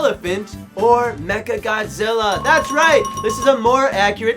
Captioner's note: ding-ding-ding